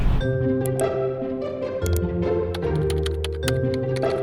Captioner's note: keyboard typing; inquisitive music